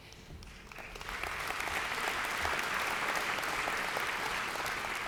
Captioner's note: audience applauds